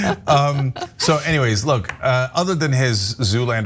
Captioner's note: laugh